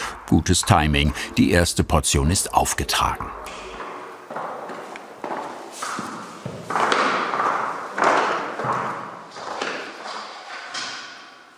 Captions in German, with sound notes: Gutes Timing, die erste Portion ist aufgetragen. (Klappernde Schritte)